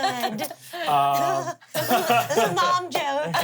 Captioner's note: everyone laughs